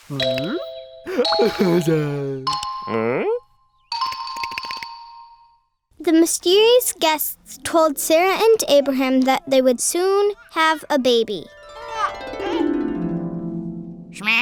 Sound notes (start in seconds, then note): 6.1 voiceover; 11.5 harp glissando